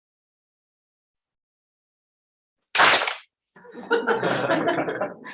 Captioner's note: clap